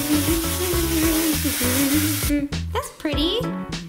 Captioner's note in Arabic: طنين